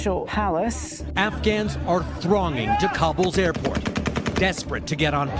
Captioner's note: machine gun fire